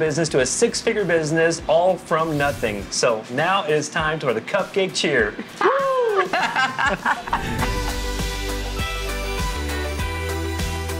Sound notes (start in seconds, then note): 5.4 laughs; 7.6 cheerful upbeat music